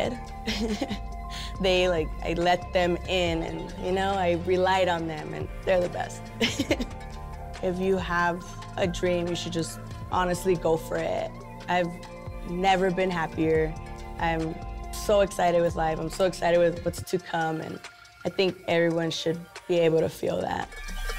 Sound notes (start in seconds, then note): 0.4 laughs; 6.4 laughs; 21.0 upbeat music